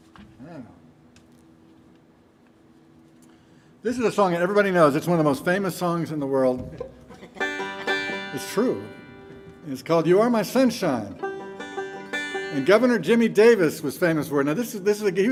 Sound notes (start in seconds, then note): 6.7 chuckling; 7.2 banjo tuning; 11.2 gentle banjo music